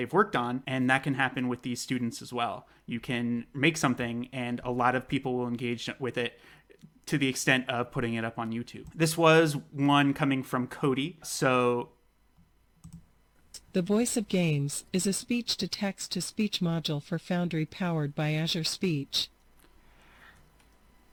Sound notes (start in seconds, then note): 11.4 TTS voice